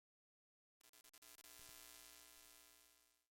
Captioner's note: static